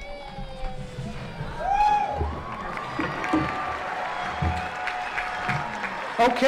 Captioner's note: applause